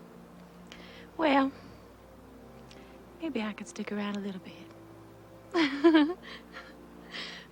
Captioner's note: soft instrumental music; giggles